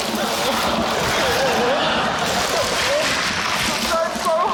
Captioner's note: sobs